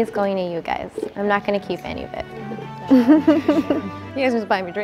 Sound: laughs

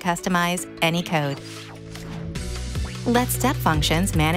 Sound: upbeat music continues; graphics whooshing

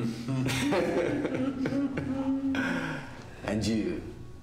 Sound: both chuckle

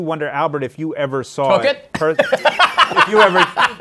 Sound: laughs

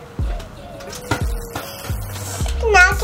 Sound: buzzer

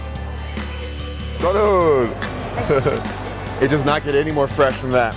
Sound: laughs

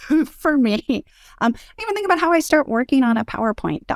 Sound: laugh

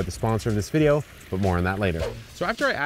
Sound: funky music; air whooshes

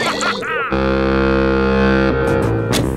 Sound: horn blowing

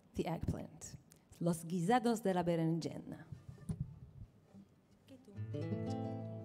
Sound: seeaking in Ladino; instrumental music

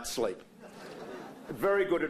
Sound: laughter

